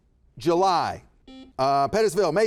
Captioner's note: buzzer buzzes